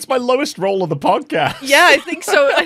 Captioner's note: laughs